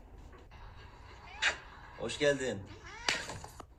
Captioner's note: kiss